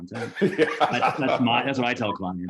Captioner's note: laughter